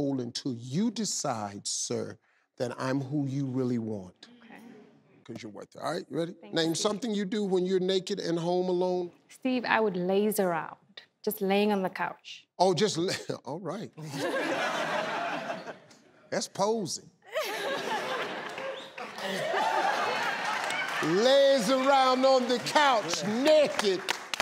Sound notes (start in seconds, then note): 14.0 audience laughs; 17.4 audience laughs